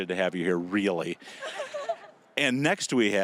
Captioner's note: laughing